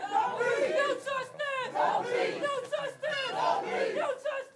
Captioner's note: �chanting�